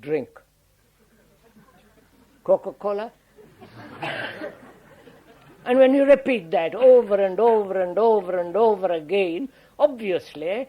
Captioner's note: laughter